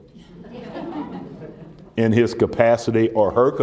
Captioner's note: laughter